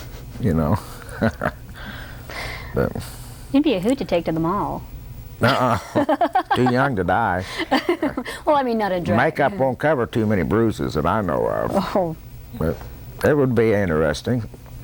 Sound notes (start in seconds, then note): 5.4 laughter